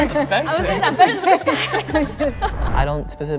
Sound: laughs

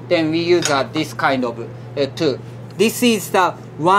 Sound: pliers clinking

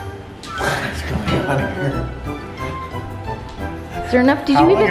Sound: ominous music; laughing awkwardly

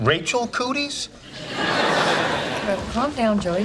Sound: audience laughing

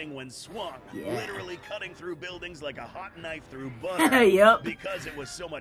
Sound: laughs

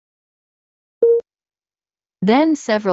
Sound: beep

